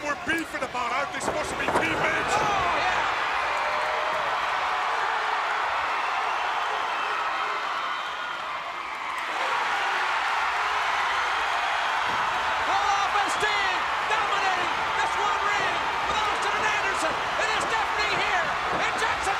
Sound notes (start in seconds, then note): 3.9 crowd cheering